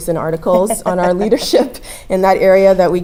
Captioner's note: laugh